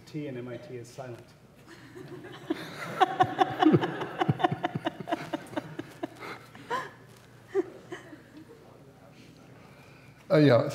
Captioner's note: laughter